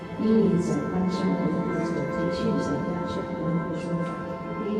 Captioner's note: speaking in foreign language